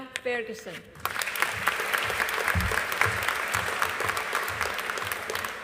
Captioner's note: audience applauding